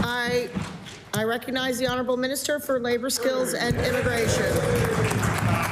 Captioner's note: applause